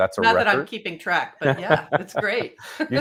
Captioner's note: both laughing